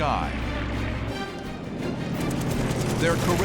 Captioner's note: rapid gunfire